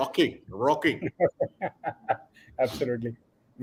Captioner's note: laughter